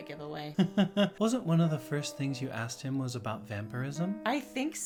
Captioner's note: laughs